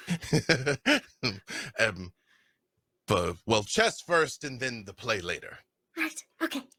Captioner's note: laughing